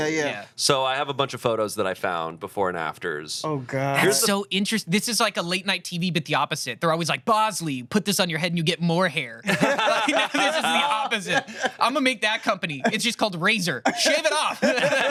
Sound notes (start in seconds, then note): 9.5 everyone laughs